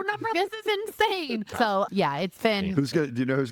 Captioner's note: laughing